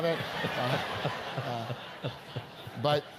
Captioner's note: laugh